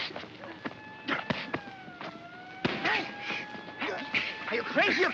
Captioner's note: running footsteps; siren wailing in distance; sounds of punching